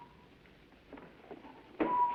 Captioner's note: whistling